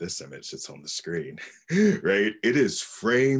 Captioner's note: laughs